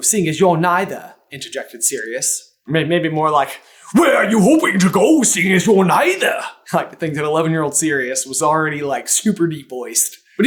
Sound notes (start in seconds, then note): 3.9 deep and brusk